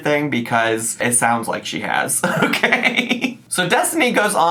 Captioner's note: laughs